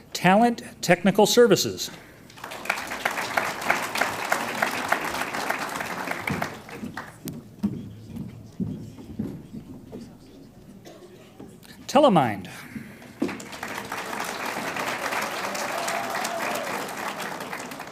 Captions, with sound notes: Talent Technical Services Inc. (audience applauds) Telemynd. (audience applauds)